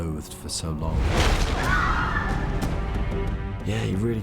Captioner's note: students yell